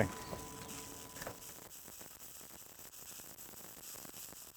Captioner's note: sparking